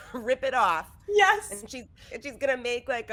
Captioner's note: laughing